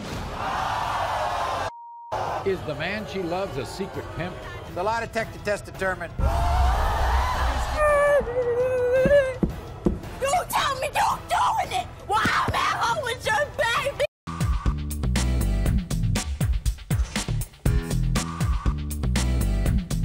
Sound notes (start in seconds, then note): 0.2 audience gasps; 7.7 groans